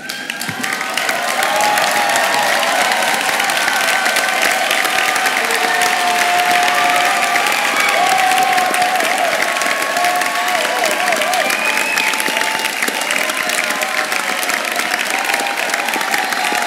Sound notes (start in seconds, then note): 1.5 audience cheering; 10.2 applause